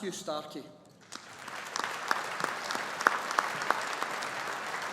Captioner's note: audience applauding